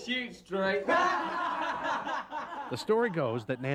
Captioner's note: laughter